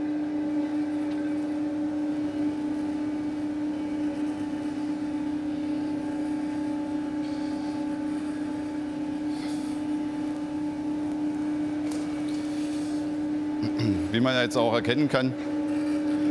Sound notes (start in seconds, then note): 13.6 coughing